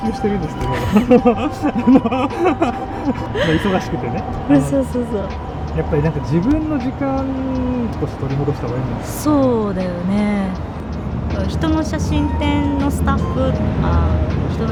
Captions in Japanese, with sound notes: [笑い] そう、そう、そう。 やっぱりなんか自分の時間取り戻した方がいいんじゃない? そうだよね。 人の写真展のスタッフとか人の写真展のための飛び込み営業とかであんまり本人があの乗り気じゃなかったりした場合とか